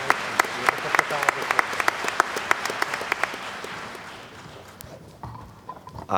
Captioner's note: applause